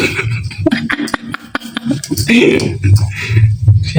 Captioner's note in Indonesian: tertawa